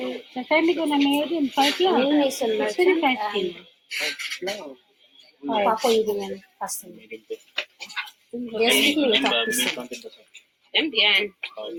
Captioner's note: talking in Bahasa